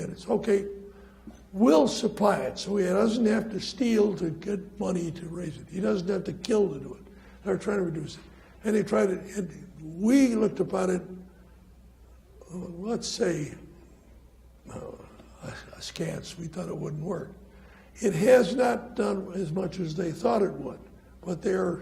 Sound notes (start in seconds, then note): none